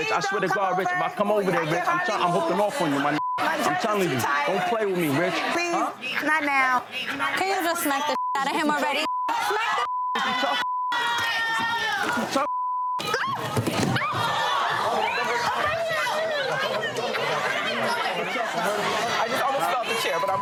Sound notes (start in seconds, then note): 8.1 beep; 12.4 beep; 14.0 audience murmuring